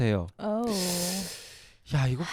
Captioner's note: sigh